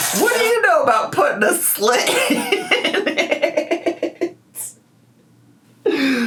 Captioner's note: laughs